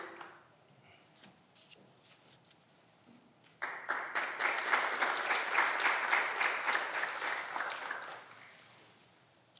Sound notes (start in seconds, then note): 3.5 clapping continues